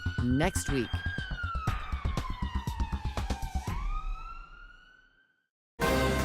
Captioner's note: sirens